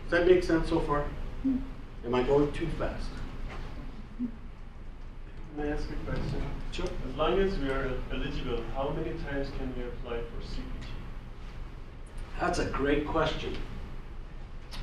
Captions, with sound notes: Does that make sense so far? Am I going too fast? - [Voiceover] May I ask a question? - Sure. - [Voiceover] As long as we are in this role, how many times can we apply for CPT? - That's a great question.